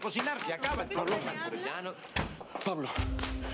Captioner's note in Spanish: Ruido al abrir puerta